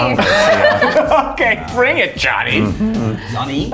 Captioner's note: laughs